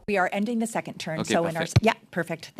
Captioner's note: speaking French